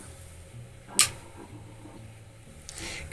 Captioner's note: clicking